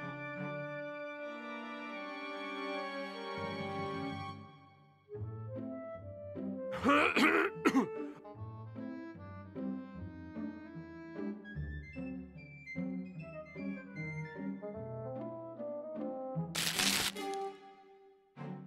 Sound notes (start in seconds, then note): 6.7 coughing; 16.5 straw rustles